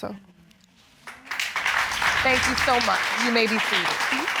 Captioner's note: audience applauding